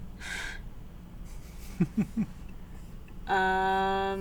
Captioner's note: chuckles; laughs